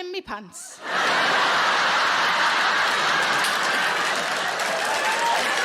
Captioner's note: audience laughing and applauding